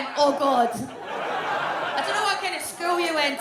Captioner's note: audience laughs